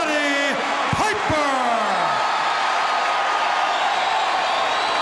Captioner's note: audience cheering